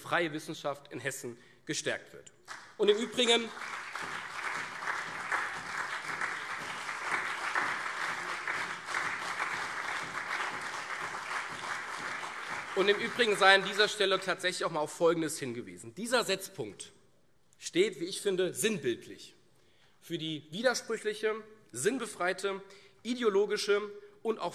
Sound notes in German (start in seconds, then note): 2.4 Beifall CDU und SPD